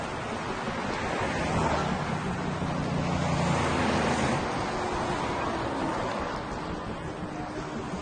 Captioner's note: traffic sounds